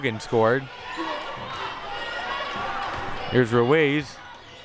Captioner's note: audience chattering and yelling